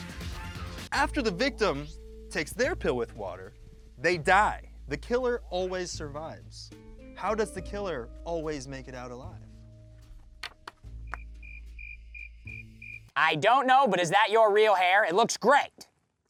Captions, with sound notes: After the victim takes their pill with water, they die. The killer always survives. How does the killer always make it out alive? [crickets chirping] I don't know, but is that your real hair? It looks great.